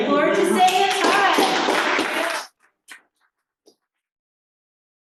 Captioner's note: applause